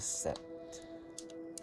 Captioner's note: both speak in Mi'kmaw